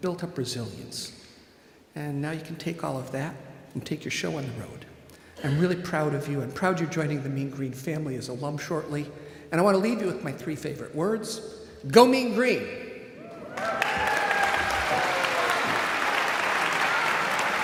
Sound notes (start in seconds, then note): 13.2 audience cheering; 13.3 audience clapping